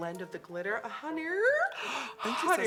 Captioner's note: gasp